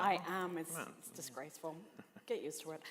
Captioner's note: laughter